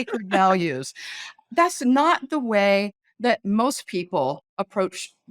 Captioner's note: laughing